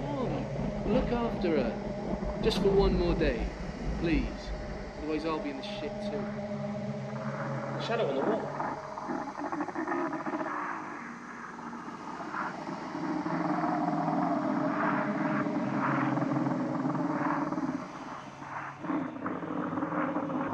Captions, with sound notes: Mm, look after her. Just for one more day, please. Otherwise I'll be in shit, too. - Shadow on the wall. (snarling)